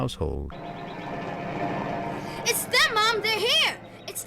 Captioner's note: vehicle approaching